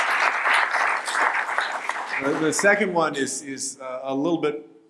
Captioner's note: applause